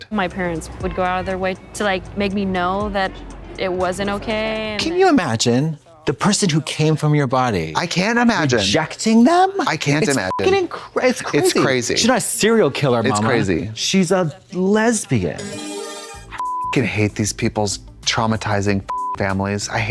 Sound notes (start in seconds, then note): 10.1 beep; 15.1 bright chime; 16.3 beep; 18.9 beep